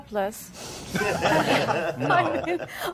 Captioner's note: all laughing